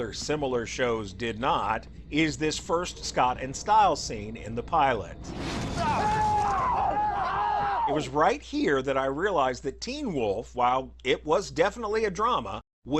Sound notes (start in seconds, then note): 5.8 women screaming